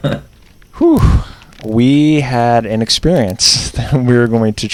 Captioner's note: laughs; whew